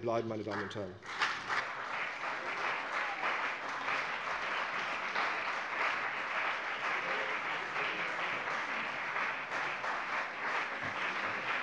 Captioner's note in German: Beifall CDU und BÜNDNIS 90/DIE GRÜNEN